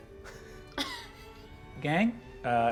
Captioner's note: laughter